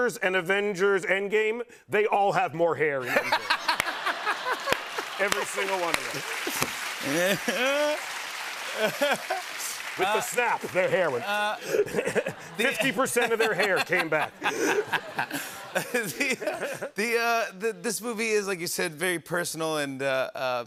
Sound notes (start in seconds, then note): 3.0 laughter; 7.0 applause; 14.5 laughter